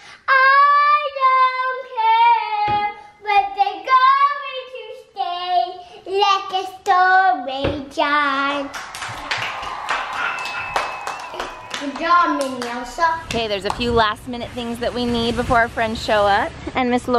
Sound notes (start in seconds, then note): 8.6 clapping